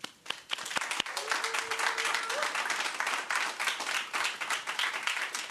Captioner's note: audience applauds and cheers